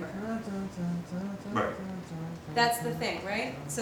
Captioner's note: mimicking melody